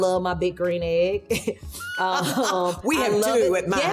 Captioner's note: laughing